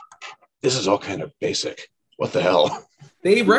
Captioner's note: laughs